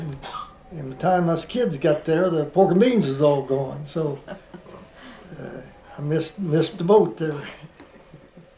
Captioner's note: laughter